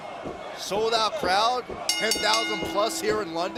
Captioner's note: bell ringing